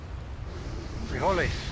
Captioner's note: speaking spanish